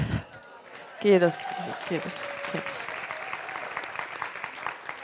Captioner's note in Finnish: Hurraahuutoja ja aplodeja